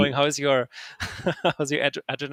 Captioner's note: laughing; laughs